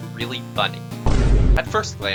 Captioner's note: speedier thud